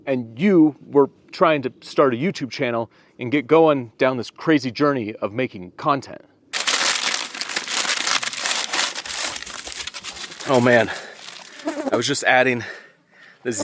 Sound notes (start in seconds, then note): 6.5 paper rustling; 9.2 foil rustling